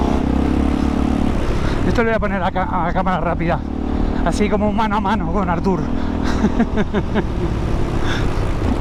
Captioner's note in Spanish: risas